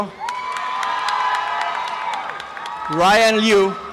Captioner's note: applause and cheering